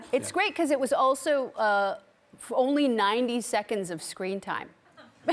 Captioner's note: laughs